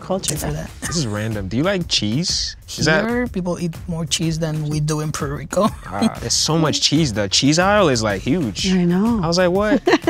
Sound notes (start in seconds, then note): 5.5 laughing; 9.7 laughing